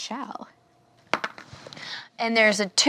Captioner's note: die rolls